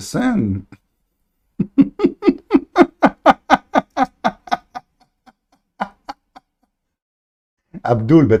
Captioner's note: Ketawa